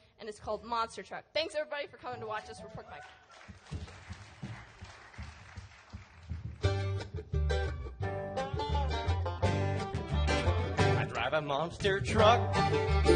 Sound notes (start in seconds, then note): 2.9 claps; 8.0 upbeat music